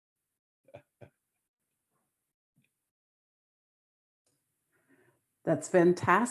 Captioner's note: laughs